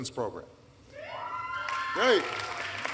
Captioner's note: applause